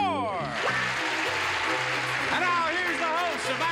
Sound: applause

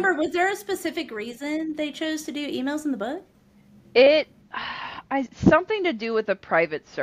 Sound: sighs

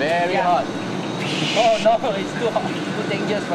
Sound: laughs

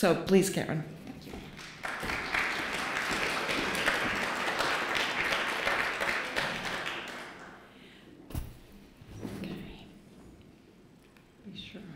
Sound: applause

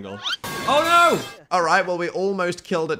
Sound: crashing sound plays

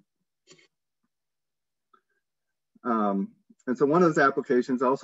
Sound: clicking

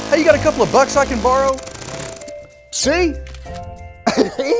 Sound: engine sputters off; camera shutter

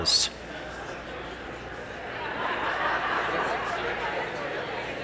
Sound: crowd talking

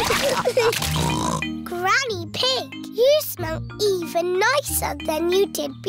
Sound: snorts

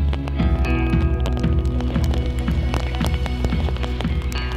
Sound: rain falling

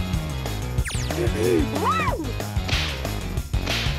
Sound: clears throat

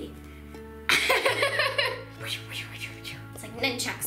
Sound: laughing

